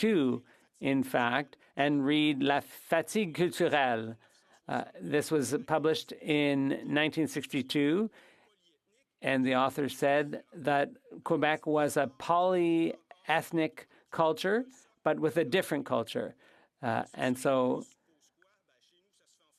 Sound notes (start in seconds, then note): 6.8 speaking French